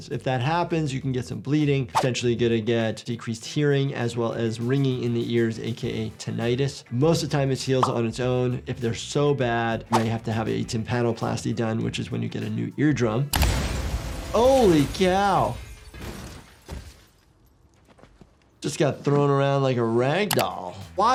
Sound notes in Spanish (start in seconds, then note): 13.4 música dramática; 13.4 el vidrio se rompe